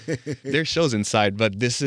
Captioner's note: laughing